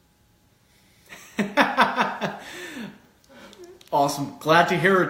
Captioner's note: laughs